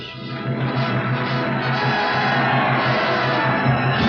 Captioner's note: applauding